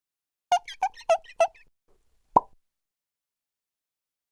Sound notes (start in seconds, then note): 0.5 squeaking; 2.3 pop